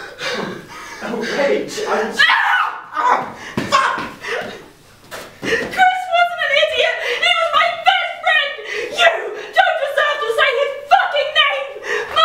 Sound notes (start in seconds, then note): 2.2 screams